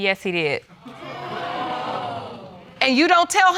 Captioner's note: audience gasping